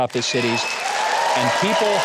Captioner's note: audience and host laughs